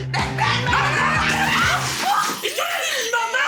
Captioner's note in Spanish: Gritos; Estruendo